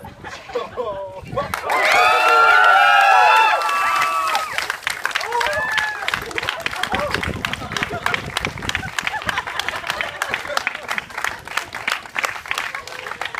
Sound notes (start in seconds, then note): 0.0 laughter; 2.0 applause and cheers